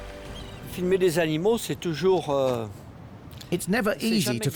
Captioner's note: speaking French